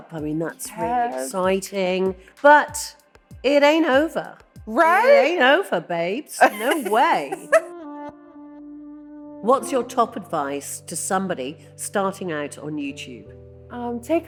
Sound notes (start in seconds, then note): 6.4 laughing; 7.8 gentle music